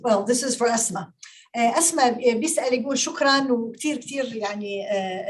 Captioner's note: speaking Arabic